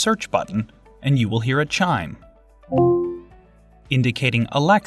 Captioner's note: chime